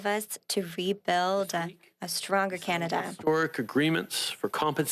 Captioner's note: speaking French